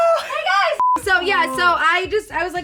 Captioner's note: beep